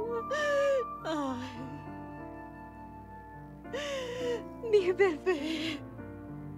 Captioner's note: llorando